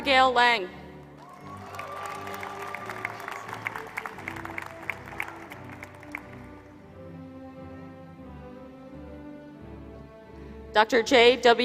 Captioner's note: applause